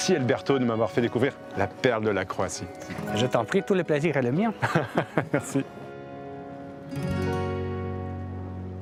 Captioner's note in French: rires